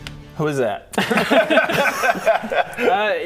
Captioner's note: hopeless laughter